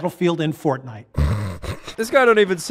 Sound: snore laugh

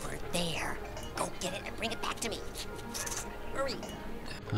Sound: chitter

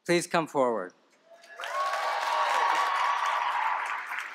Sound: applause

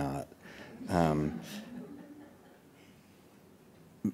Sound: audience laughing

